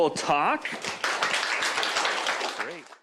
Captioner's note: applause